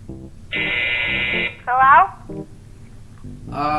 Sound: buzz

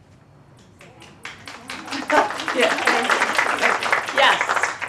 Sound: applause

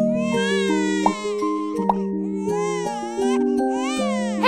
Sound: baby crying

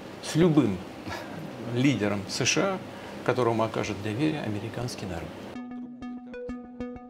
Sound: Putin speaking in Russian; ethereal music

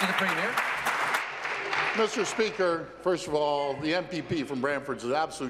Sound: applause

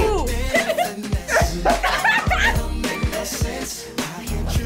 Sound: both laugh

